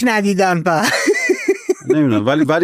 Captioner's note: laughs